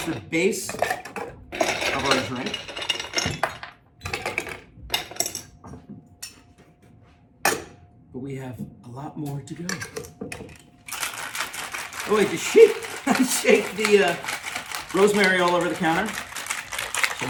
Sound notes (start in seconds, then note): 0.0 ice clinks; 10.9 cocktail shakes